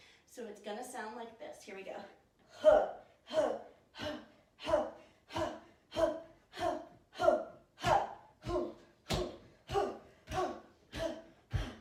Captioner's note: guttural sounds each bounce